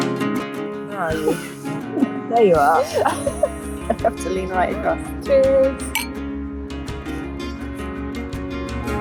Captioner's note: laughter